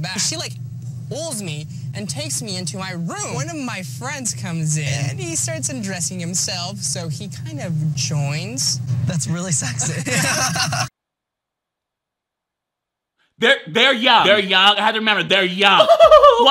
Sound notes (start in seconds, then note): 9.7 contestants laughing